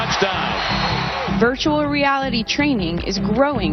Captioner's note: voiceover